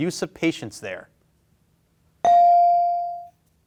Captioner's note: bell ringing